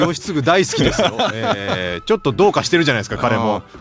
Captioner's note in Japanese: 笑い